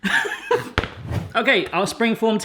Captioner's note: laughs